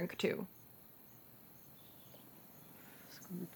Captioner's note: in spanish